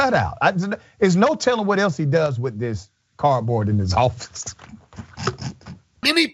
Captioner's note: laugh